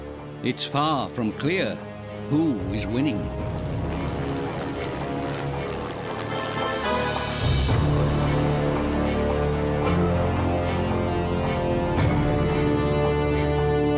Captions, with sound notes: it's far from clear -who is winning. -[helicopter whirring] [ominous music]